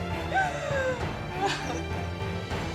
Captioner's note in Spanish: Sollozos